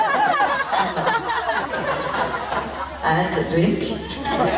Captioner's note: laughs